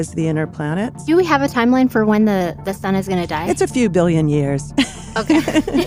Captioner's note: laughs